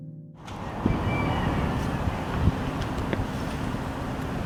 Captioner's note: wind howling